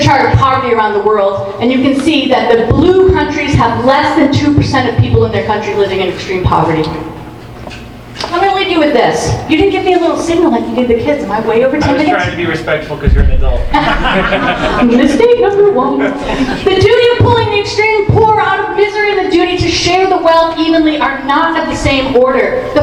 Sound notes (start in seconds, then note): 13.7 audience laughing; 13.7 laughs